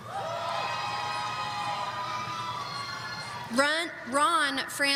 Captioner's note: audience cheering